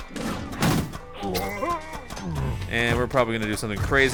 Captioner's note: zombie groaning